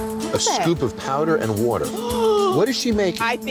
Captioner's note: gasps